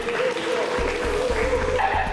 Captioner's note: clapping